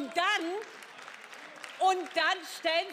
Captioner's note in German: Beifall